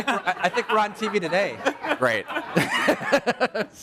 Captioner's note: laughing